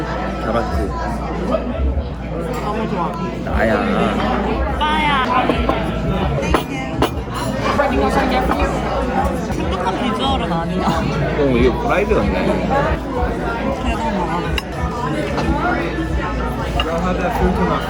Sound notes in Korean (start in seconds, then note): 3.7 ㅋㅋ